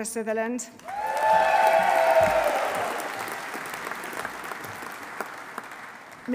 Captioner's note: audience cheering; audience applauding